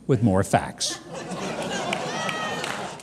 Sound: laughing

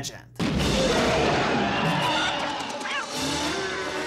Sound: muffled screaming

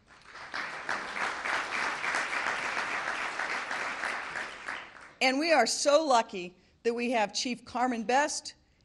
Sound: applause

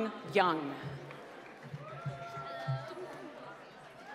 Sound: applause

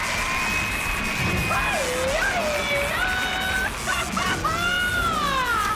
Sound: squealing

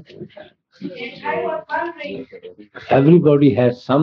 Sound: laughter

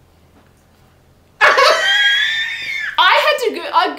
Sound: laughing

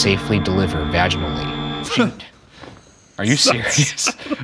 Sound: Shane laughing

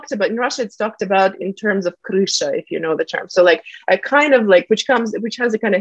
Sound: russian

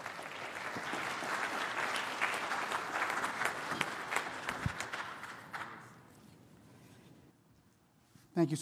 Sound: applause

